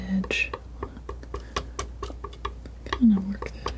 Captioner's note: tapping